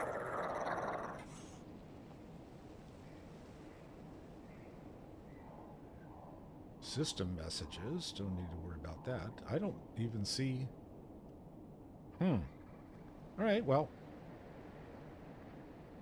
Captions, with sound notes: (birds chirping) System messages, don't need to worry about that. I don't even see. Hmm, all right, well.